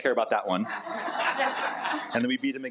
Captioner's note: attendees laugh